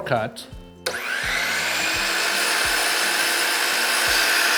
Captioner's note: saw whirring